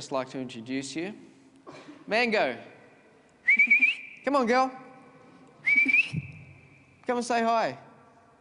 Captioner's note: whistles